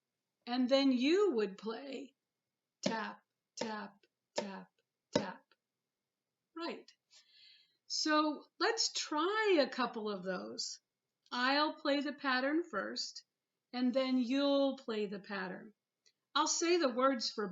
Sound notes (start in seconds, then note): 2.9 tap tap tap tap